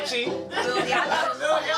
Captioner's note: all laugh